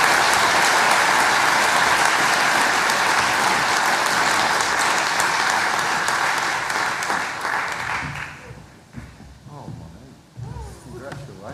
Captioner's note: applause